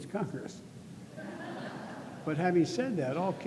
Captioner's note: laughter